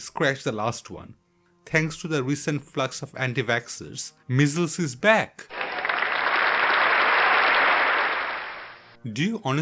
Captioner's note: clap